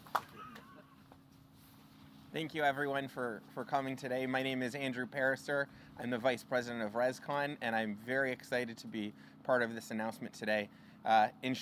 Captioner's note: applause